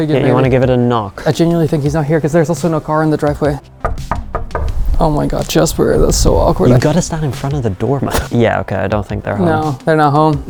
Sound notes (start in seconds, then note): 3.7 knocking